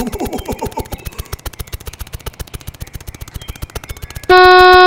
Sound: snapping; beeeeeeeeeeep

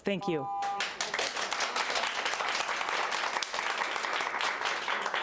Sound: audience applauding

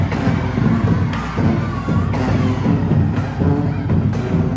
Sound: crowd cheering; upbeat music

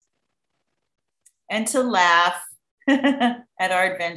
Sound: laughs

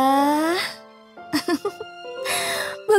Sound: laughing

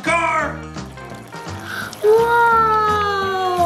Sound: water dripping

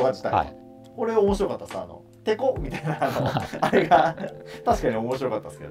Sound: laughing

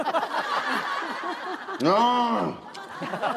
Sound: exclaiming

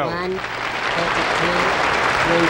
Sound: audience clapping

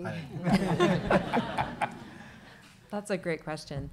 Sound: audience laughing

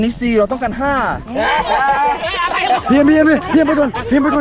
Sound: laughs

